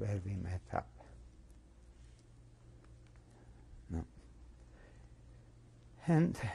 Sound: pauses for 3 seconds

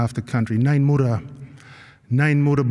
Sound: non-english speech

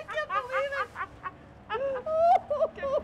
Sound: laughter

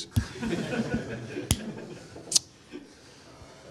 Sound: laughter

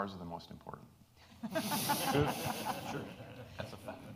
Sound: audience laughing

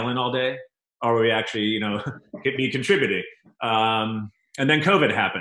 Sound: chuckles

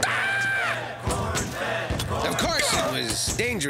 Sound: yelling; chanting

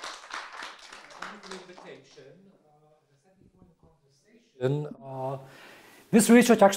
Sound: audience applauding; speaking faintly

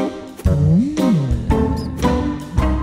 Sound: sinister sigh

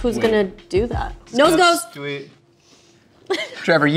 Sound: laughs

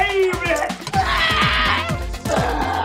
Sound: yells in oscarinean

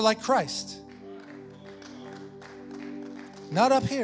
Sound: congregation affirming and clapping

